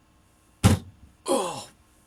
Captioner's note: silence; hand slams on table